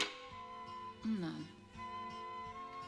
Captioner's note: speaking german